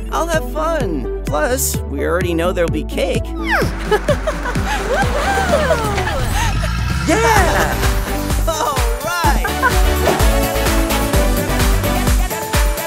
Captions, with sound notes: I'll have fun. Plus, we already know there'll be cake. (laughing) - All right. (upbeat music)